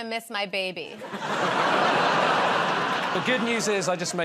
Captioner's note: laughter